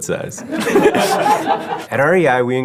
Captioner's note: laugh